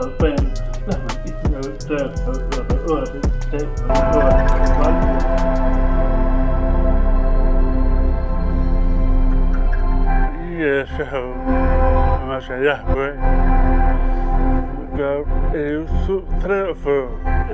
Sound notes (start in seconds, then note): 1.4 upbeat music; 8.9 speaking foreign language